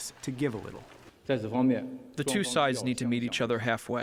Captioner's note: through translator